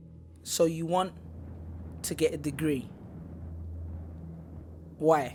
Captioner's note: with British accent